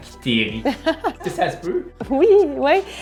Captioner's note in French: Rires